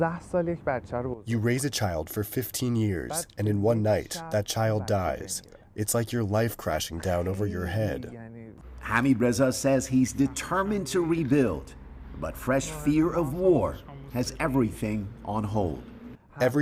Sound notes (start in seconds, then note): 2.2 through translator